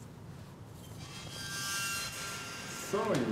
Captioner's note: squeaking